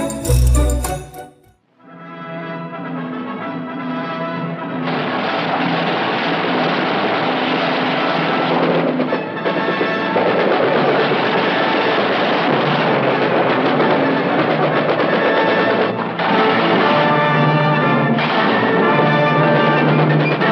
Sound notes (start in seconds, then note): 0.0 synth music; 1.6 orchestra music; 4.7 gunfire; 12.2 explosion; 15.4 gunfire; 18.4 gunfire